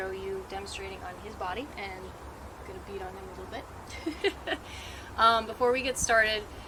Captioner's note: laughs